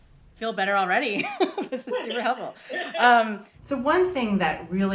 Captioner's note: laughs